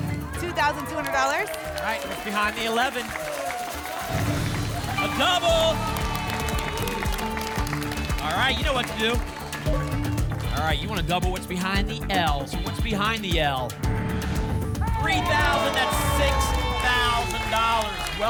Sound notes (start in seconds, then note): 4.0 booms; 6.6 applause and cheering; 13.7 whoosh